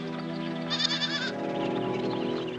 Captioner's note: bleating